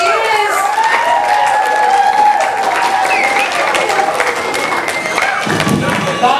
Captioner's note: audience applause